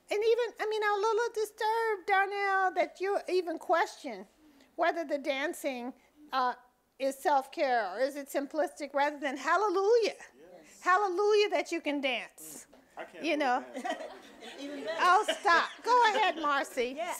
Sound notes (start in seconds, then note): 13.7 audience laughing